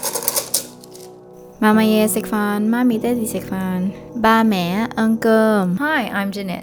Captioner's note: chopsticks clanking